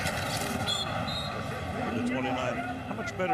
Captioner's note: whistle blows